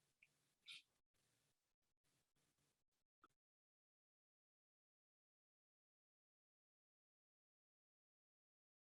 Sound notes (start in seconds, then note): 0.0 no audio